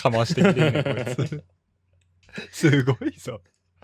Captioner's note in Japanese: 笑い